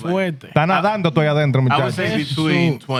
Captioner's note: speaking Spanish